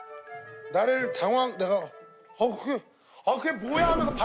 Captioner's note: panicking